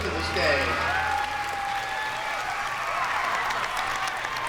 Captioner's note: applause